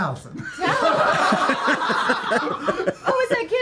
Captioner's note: laughter